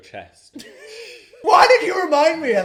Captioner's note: both chuckling